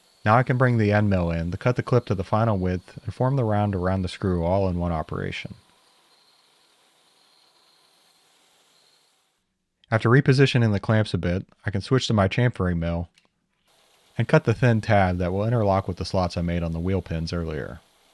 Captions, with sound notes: Now I can bring the end mill in to the cut the clip to the final width, and form the round around the screw, all in one operation. (drill whirring) After repositioning the clamps a bit, I can switch to my chamfering mill and cut the thin tab that will interlock with the slots I made on the wheel pins earlier.